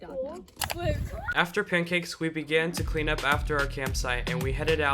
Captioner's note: voiceover